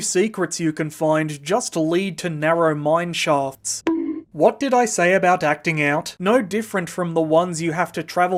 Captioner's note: bonk!